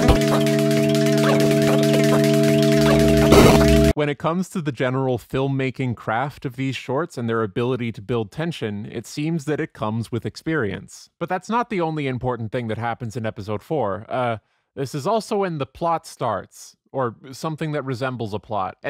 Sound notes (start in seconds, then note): 0.0 distant sped-up song; 0.2 phone dial tone grows louder; 3.3 distant sped-up song; 3.3 loud retro noise; 3.6 sped-up song